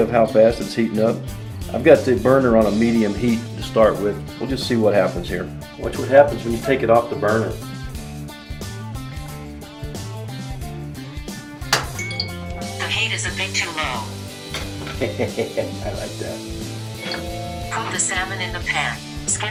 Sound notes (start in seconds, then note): 11.8 electronic beep; 14.8 laughs; 15.5 voiceover; 17.3 electronic beep